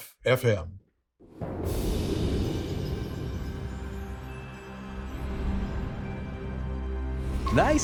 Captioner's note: soft music; wind whooshing